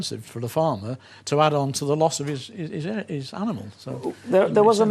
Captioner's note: stammers